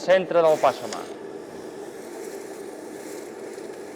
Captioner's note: sound of water sizzling